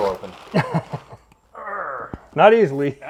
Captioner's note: cameraman laughs